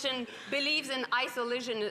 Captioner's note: speaking French